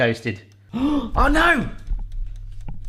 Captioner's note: gasping